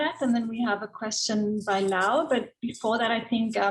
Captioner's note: murmurs